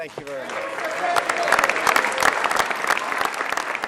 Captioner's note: applause